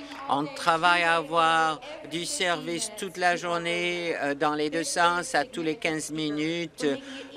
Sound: applause

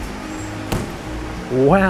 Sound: feet thud

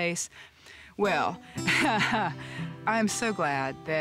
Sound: chuckles

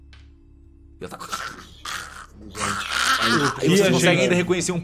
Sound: arrhg

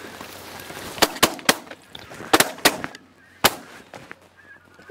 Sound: shots fired

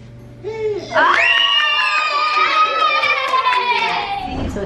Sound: cheering

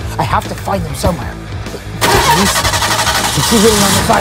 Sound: engine starts

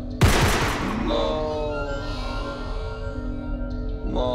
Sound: gun shoots

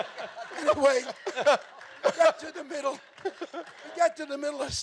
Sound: laughing

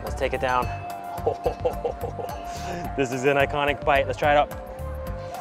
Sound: chuckles

